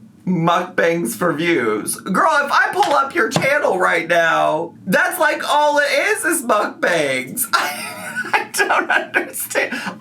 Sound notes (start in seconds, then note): 7.5 laughs